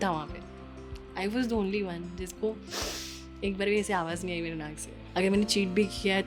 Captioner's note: sniffs